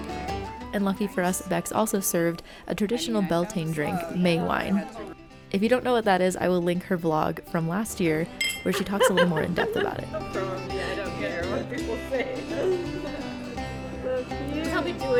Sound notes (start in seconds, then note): 8.4 glasses clinking